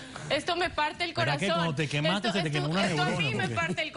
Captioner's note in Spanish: Risas